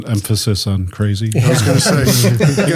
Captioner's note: group laughs